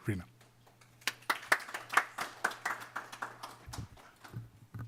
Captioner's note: clapping